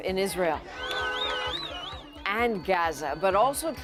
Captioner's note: chanting